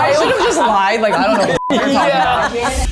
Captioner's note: beep